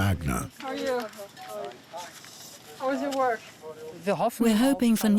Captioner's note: background chatter